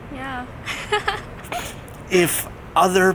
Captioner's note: laughs